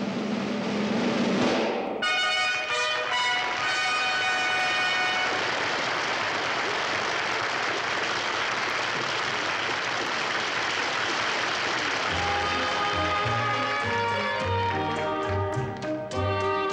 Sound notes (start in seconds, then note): 2.0 triumphant fanfare music; 4.8 audience applauds